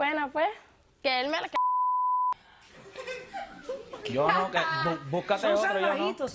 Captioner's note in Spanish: Risas; Bip